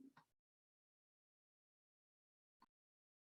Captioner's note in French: silence